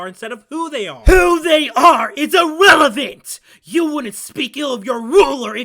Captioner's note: shouts